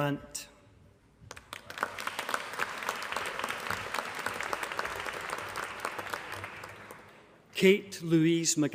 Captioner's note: applause